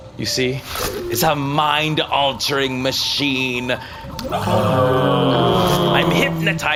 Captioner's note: belt whirs